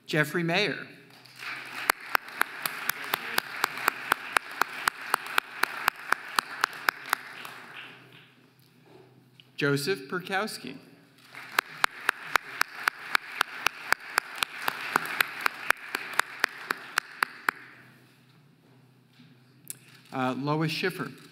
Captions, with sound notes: Jeffrey Mayer (audience applauding) Joseph Piorkowski (audience applauding) Lois Schiffer